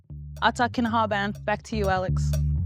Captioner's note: speaking in Aaniiih; upbeat music